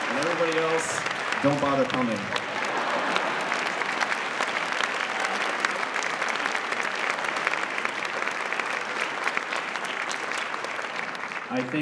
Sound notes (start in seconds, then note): 4.7 applause